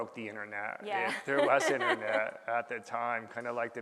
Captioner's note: laughing